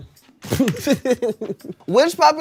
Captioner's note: laughs